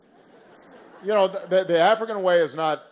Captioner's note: laughter